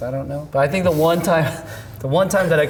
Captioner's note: laughs